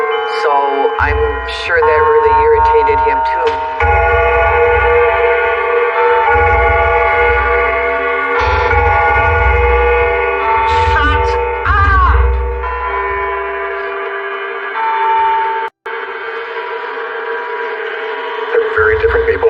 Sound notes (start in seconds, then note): 4.1 clocks chiming lolyly